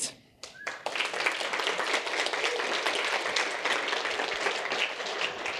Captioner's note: audience applauding